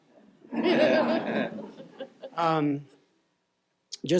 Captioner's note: laughter